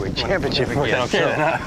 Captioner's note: laughs